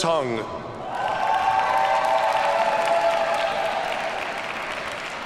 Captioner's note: audience cheers and applauds